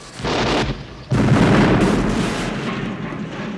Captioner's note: bombs blasting